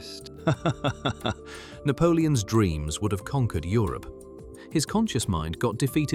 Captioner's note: laughing